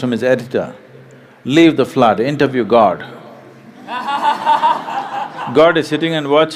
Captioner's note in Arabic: اضحك